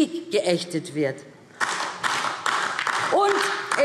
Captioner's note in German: Beifall DIE LINKE